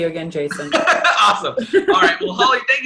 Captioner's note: laughs